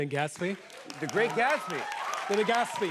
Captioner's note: cheers and applause